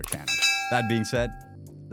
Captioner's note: bell dinging